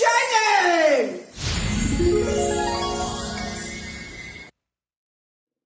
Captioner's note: transition twinkles